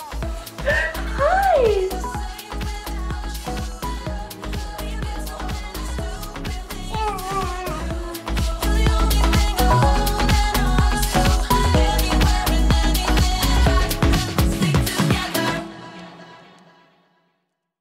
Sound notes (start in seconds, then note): 6.8 baby babbles; 10.4 pop music